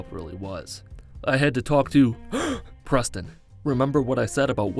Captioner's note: gasp